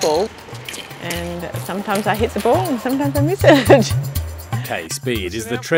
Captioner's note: laughs